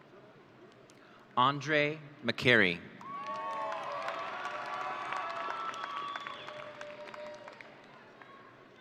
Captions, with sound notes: Andre McCary. (audience cheering)